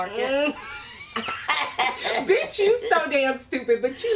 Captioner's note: laughs